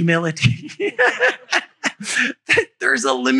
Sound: laughter

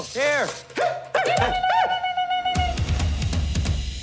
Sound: hooting

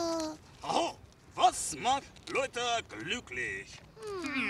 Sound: speaking German

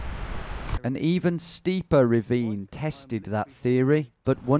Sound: voiceover

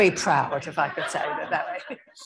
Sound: audio distorts

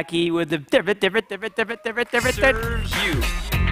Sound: imitates record scratching

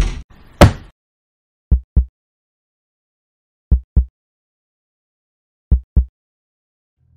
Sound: heartbeat

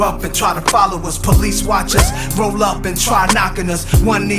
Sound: siren

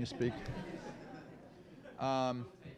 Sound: laughter

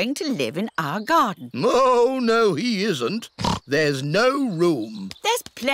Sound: oinks

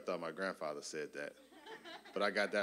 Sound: audience laughing

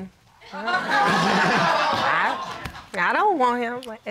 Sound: all laughing

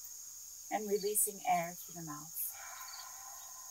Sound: exhales

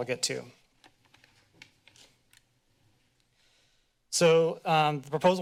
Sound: paper rustling

